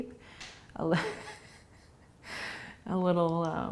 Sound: laughing

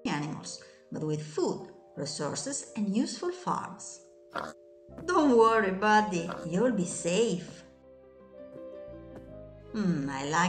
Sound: pig grunts

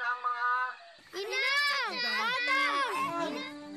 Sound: Pedrito and Pepito in unison

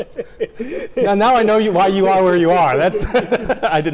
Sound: laughs; laughs

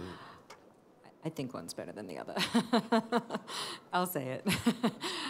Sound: laughter

